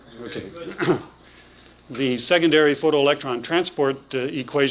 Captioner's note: clears throat